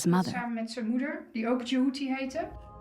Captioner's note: speaks Dutch